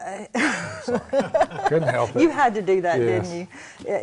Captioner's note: laughter